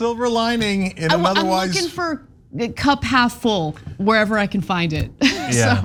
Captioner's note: laugh